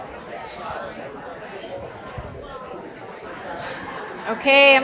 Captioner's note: audience chatter continues